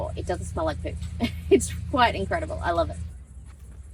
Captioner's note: chuckling